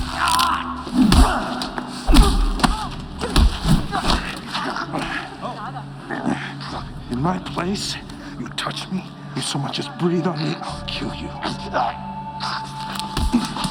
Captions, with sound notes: ( Groans, yells ) In my place, you touch me, you so much as breathe on me, I will kill you. ( Gagging )